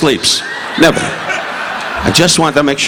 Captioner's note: audience laughing